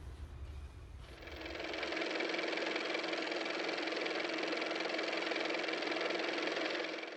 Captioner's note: car motor